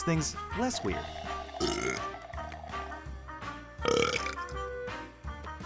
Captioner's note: belching